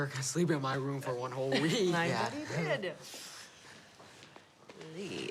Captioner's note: laughs